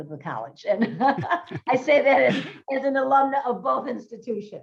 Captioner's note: group laughs